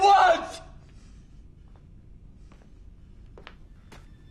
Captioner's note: footsteps